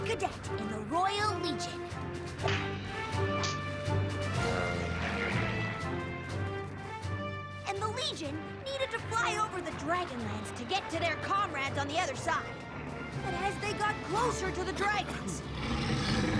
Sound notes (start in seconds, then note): 5.0 engines buzzing; 14.6 growling; 15.4 coughing